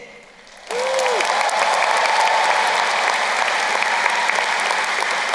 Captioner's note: crowd cheering and applauding